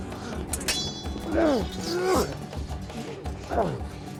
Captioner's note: grunting